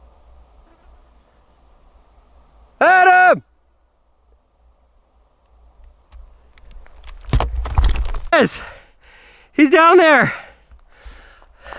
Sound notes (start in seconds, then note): 5.8 camera rustles